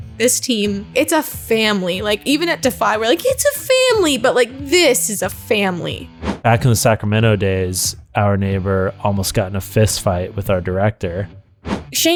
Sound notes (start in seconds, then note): none